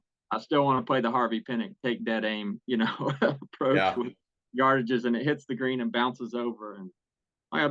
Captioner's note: laugh